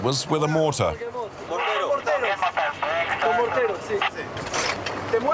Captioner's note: French spoken audio